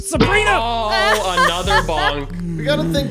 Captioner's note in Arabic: تضحك